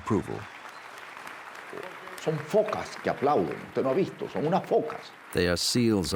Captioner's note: applause